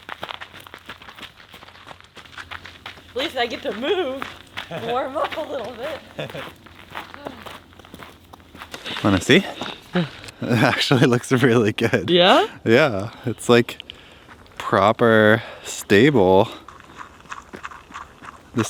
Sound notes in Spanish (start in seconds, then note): 5.5 riendo; 7.3 pasos; 16.5 pasos rápidos